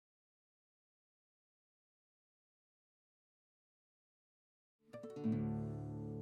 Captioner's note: silence